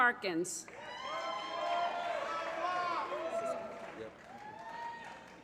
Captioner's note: applause